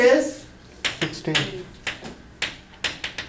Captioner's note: voiceover